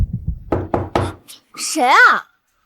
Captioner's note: knock